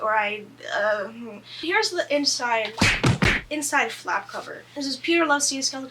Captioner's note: punching sound effects